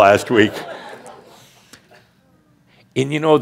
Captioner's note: laughter